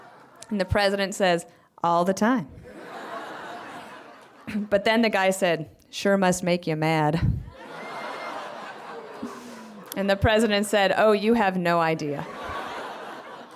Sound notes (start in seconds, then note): 3.5 laughter; 11.9 laughter